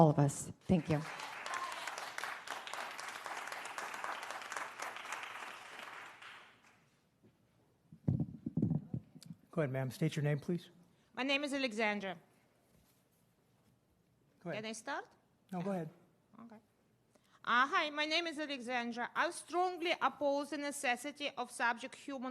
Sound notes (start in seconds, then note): 7.8 applause